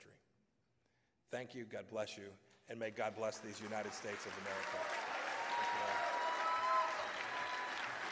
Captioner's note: applause